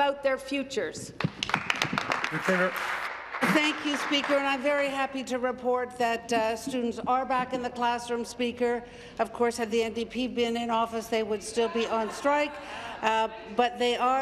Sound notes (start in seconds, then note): 4.3 applause